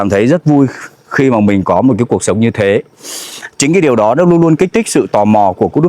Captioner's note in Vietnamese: khịt mũi